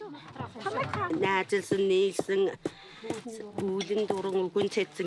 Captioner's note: foreign spoken audio